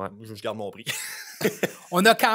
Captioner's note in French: rires